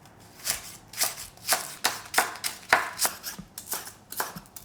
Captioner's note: knife chopping